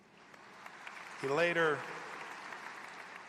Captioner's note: applause